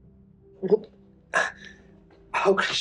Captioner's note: gasps